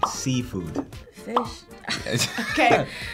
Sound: bubble popping; chuckling

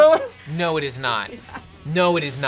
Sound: laughs

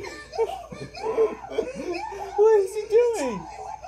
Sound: sobbing

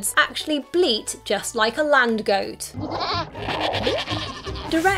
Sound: bleating

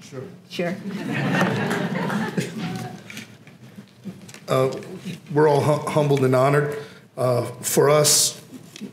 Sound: laugh

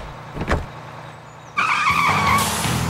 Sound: tires squeal

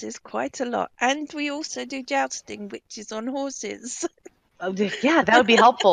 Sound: laughing

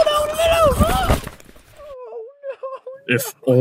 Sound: printer muffled sobbing

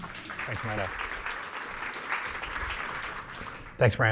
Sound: applause

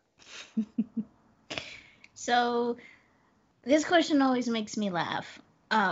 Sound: laughs

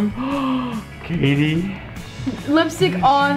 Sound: gasps

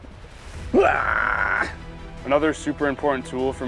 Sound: groans

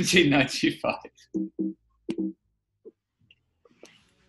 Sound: repeated macos funk alert sound

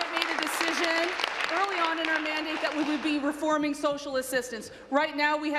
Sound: applause

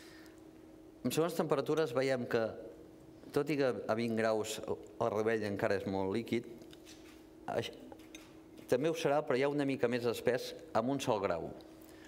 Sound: speaking catalan

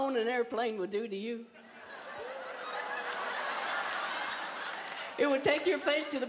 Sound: laughter

